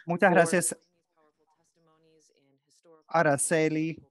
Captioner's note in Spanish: hablando inglés